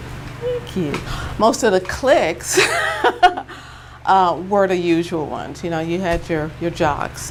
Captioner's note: chuckle